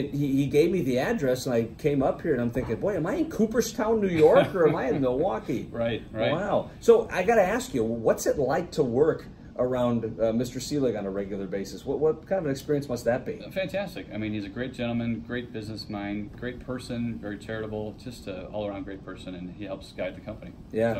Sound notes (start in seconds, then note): 4.1 laughs